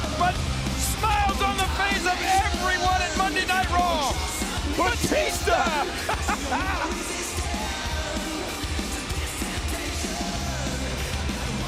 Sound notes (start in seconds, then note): 5.2 King laughing; 7.6 upbeat rock music continues